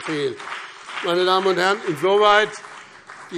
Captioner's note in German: Beifall BÜNDNIS 90/DIE GRÜNEN und CDU